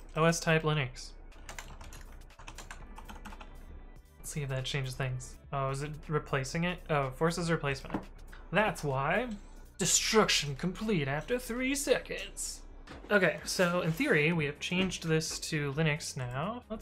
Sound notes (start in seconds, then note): 1.4 keyboard clattering